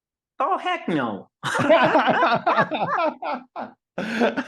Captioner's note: laughs